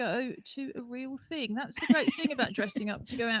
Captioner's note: laughter